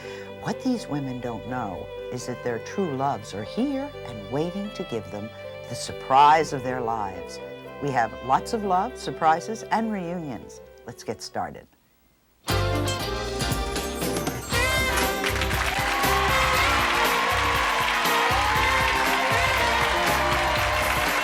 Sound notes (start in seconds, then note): 12.5 lively music; 14.6 cheering; 14.6 clapping